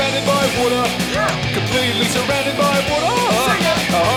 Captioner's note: sing it!